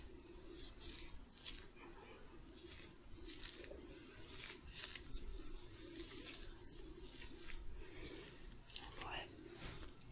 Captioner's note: sticky glove sounds